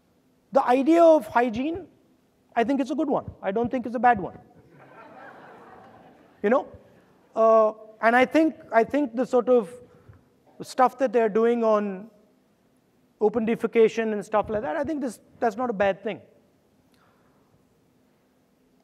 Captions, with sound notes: The idea of hygiene, I think it's a good one, I don't think it's a bad one. (audience laughing) You know. And I think the stuff that they're doing on open defecation and stuff like that, I think that that's not a bad thing.